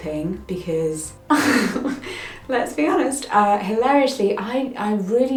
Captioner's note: laughs